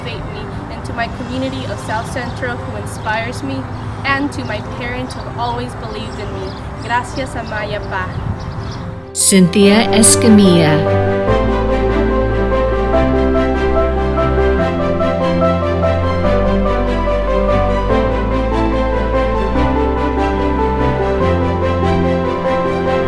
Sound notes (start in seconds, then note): 6.5 speaking foreign language; 11.6 upbeat music